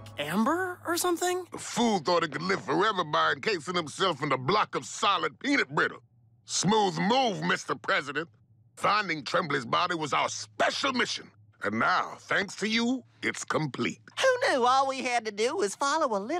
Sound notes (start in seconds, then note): none